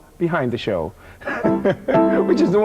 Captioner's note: laughing